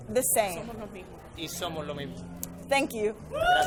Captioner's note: and interpreter speaking in foreign language